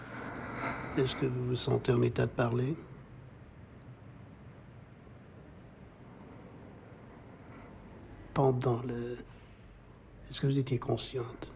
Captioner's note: speaking french